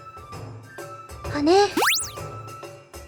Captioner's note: upward brushstroke